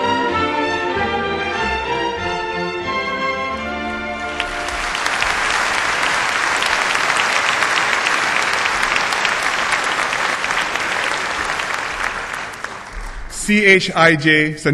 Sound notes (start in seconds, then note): 4.1 applause